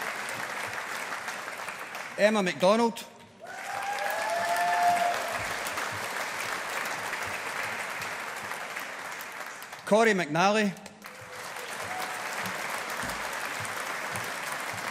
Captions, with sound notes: Emma MacDonald. (AUDIENCE APPLAUDING) Corrie MacNally. (AUDIENCE APPLAUDING)